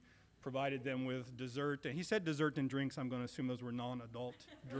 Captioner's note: laughter